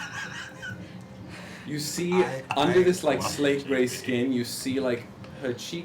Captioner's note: laughs